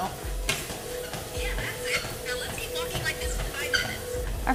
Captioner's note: app Voice